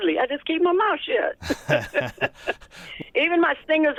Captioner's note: laughter